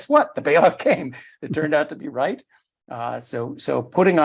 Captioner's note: laugh